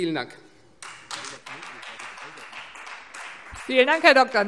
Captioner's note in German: Beifall Freie Demokraten